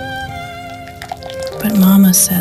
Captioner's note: squelch